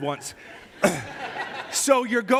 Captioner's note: risas de congregación